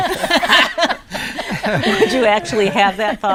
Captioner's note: all laughing